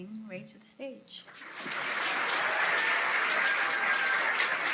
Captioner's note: applause